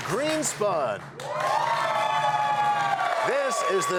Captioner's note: cheers and applause